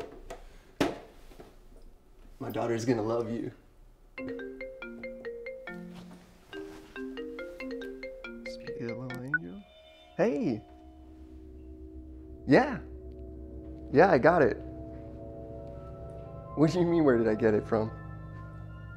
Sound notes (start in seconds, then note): 4.2 phone ringing